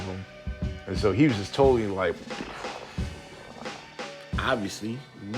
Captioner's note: explosion noises